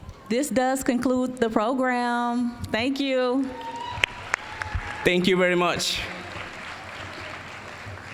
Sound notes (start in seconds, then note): 6.1 applause